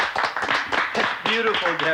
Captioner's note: applauding